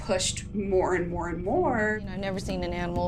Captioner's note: soundbite of tv show, "fear factor"